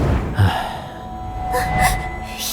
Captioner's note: sighs